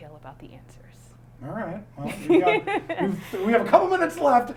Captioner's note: laughter